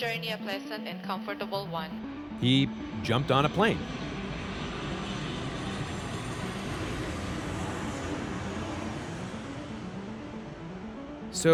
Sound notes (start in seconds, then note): 4.0 soundbite of airplane takeoff